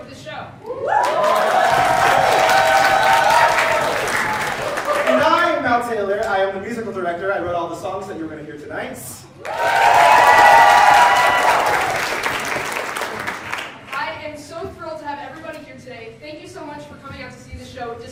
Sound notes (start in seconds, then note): 0.9 applause; 9.4 hearty applause